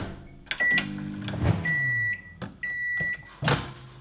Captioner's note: microwave beeping